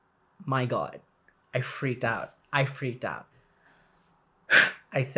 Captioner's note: deep breath